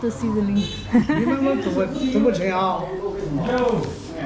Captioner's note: in dialect